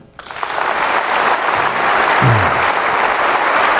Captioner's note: applause